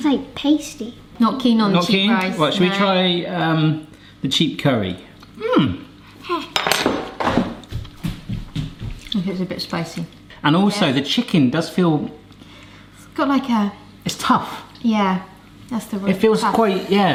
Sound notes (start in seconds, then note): 5.4 hums; 7.2 fork clanking; 7.2 feet stomping